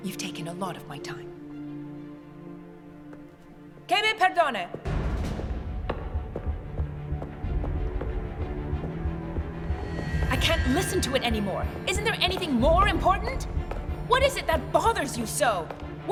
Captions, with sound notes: You've taken a lot of my time. (Elizabeth speaks in a foreign language) (dramatic music) I can't listen to it anymore. Isn't there anything more important? What is it that bothers you so?